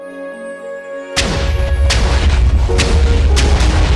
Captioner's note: explosion sounds